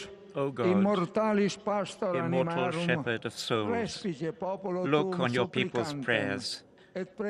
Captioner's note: speaking Alternate Language